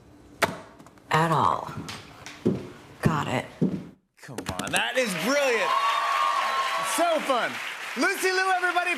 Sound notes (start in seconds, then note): 4.8 cheers and applause